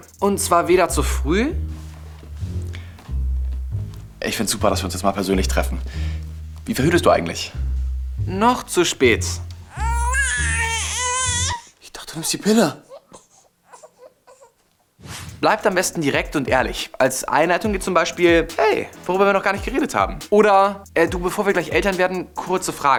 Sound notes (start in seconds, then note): 12.8 Babyschreien